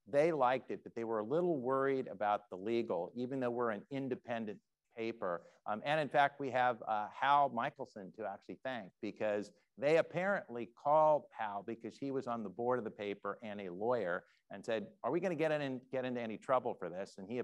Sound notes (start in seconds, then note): none